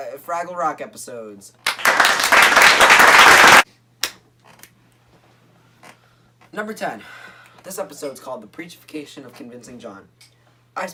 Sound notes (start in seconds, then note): 1.6 devastatingly loud applause; 3.7 clap